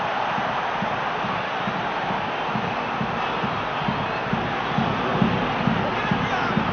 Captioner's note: crowd cheering